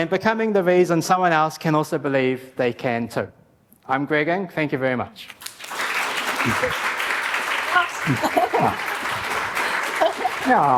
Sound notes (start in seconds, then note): 5.3 applause